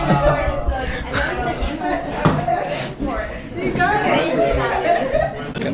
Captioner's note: laugh